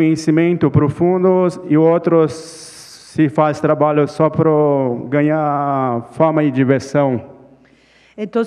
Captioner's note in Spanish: Ponente habla en portugués